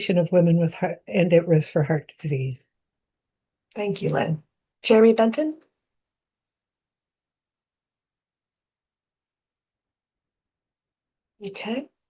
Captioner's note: pause